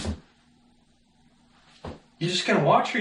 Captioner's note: movement Noise